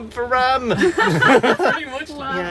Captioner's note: laughter